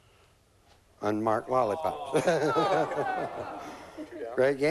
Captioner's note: chuckles